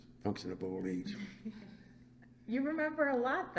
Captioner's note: laughs